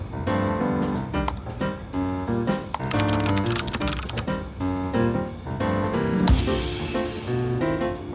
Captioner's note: clicking and typing